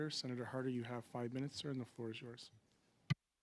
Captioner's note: speaking French